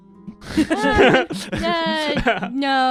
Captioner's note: laughter